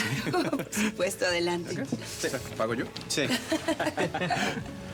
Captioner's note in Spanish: Risas